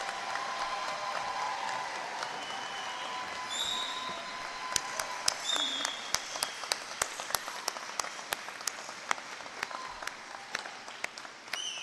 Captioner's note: applause